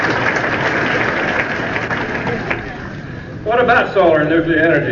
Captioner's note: applause